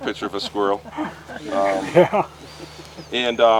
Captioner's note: group laughs